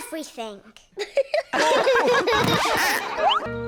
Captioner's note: all laugh